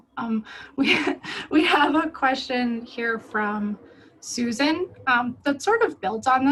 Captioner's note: laughs